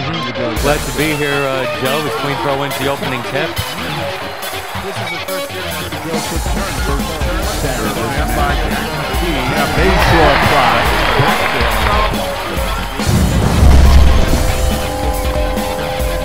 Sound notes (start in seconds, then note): 0.0 crowd cheers; 5.4 commentators talking; 5.4 crowd cheers; 12.4 upbeat music